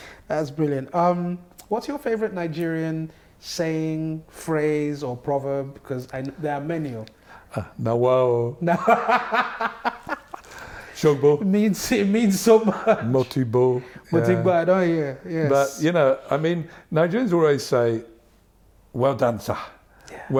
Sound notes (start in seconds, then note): 8.6 laughter